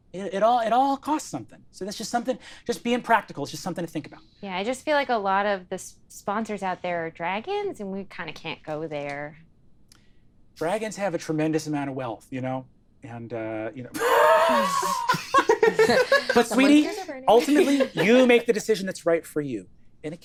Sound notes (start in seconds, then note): 13.9 laughs